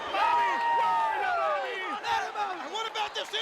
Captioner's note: attendees cheering